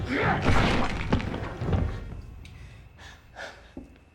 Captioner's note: body thuds